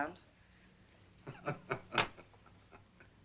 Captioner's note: Faust laughs